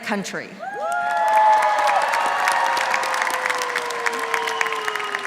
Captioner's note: applause